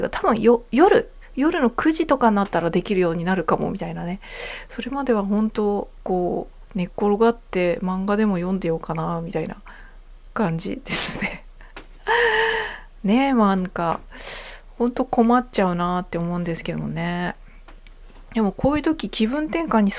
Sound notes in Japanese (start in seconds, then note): 12.0 息をのむ音